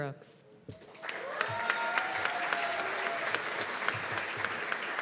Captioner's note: cheers and applause